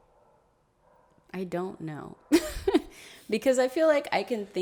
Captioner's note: laughs